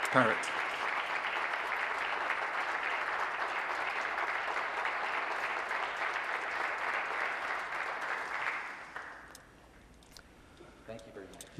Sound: applause

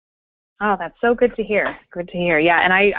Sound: voiceover

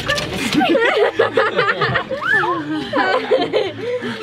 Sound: laughter

